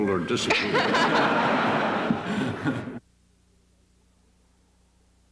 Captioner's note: laughter